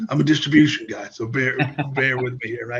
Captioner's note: laughs